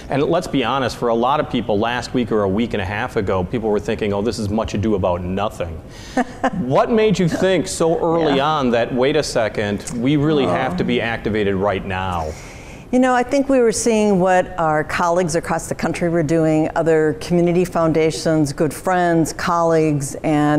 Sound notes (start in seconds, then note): 6.1 laughing